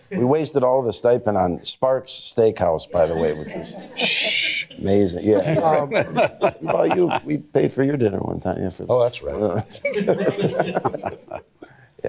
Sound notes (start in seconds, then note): 3.0 laughs; 9.6 laughter